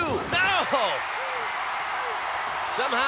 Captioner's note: crowd cheering